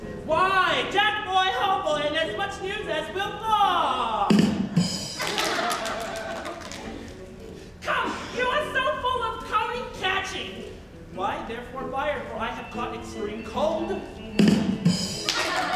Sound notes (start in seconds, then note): 4.3 comic rimshot music; 5.1 group laughs; 14.3 comic rimshot music; 15.3 group laughs